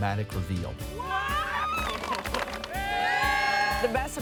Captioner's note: cheering